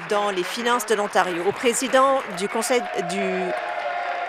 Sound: applause

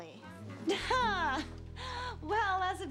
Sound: laughs

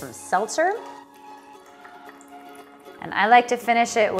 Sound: pouring

